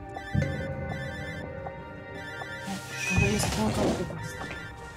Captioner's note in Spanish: Suena el celular